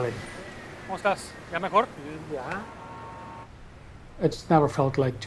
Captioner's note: speaking foreign language